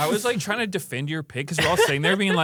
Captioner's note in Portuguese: risos